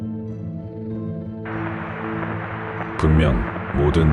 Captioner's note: the radio noise becomes increasingly unstable